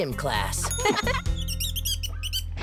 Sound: squeaking

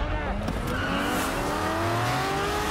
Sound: tires screeching

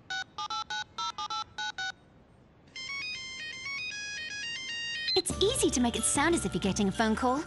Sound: keypad bleeping; cellphone ringing

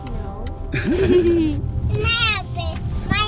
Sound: laughs

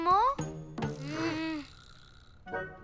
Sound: both groan

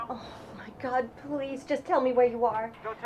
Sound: voiceover

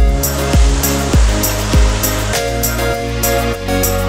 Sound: water sloshes; sloshing continues

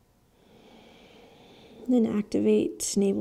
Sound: heavy breathing

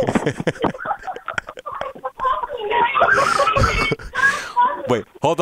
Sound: laughs

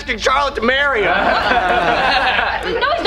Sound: laughing

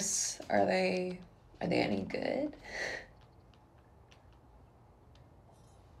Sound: chuckles

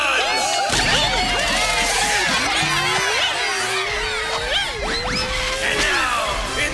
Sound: The Milk Dots Whooping

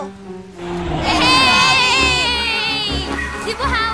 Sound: cheering

